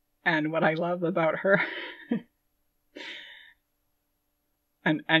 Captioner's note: laughing